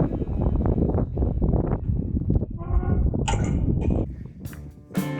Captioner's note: wind blowing and gate creaking